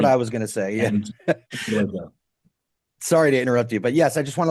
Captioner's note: laughing